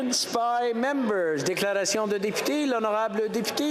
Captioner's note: chatter; speaking French